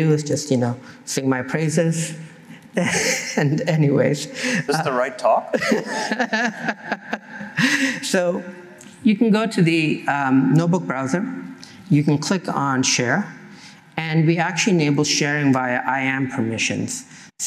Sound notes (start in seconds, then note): 5.4 laughter